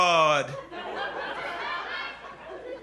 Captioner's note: laughter